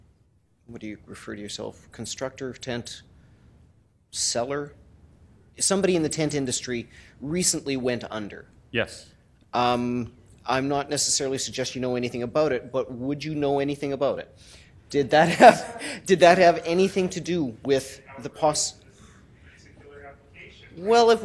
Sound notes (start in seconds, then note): 15.2 laughter